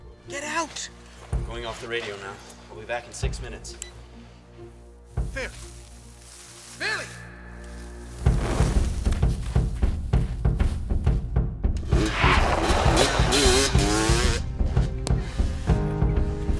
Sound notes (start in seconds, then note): 7.9 bike whirring; 7.9 dramatic music